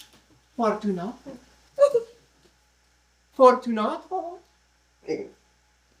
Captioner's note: sob